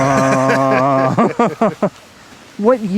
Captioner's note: laughs